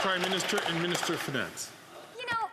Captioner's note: some Applause